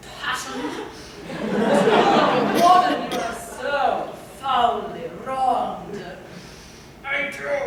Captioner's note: laughter